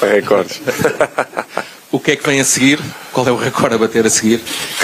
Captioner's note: laughter